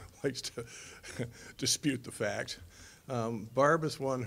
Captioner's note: chuckling